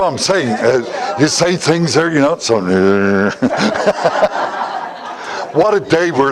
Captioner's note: Смех